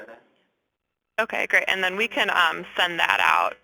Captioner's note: voiceover